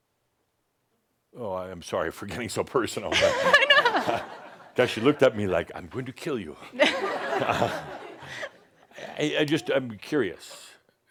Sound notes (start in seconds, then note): 3.1 laughter; 6.7 more chuckles